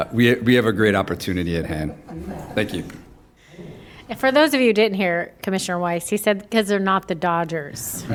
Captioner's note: laughter